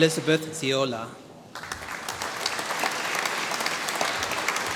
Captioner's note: applause